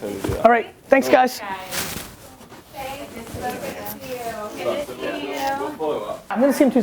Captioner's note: people chat